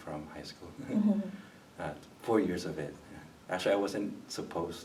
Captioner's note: laugh